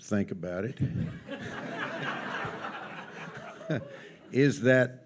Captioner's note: audience laughs